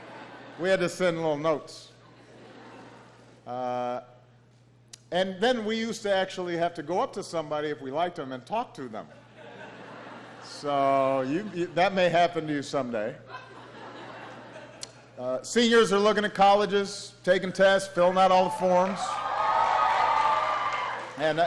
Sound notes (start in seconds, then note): 15.0 laughter; 19.5 applause